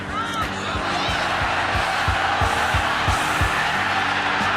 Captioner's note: cheering